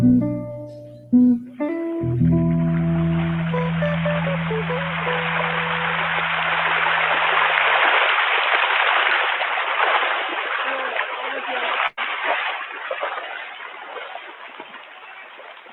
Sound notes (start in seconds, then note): 3.2 water babbling